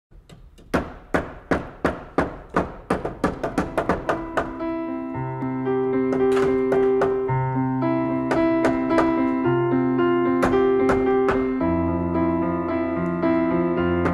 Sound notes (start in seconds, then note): 0.1 hammering; 3.8 soft music